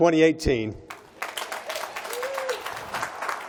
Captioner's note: applause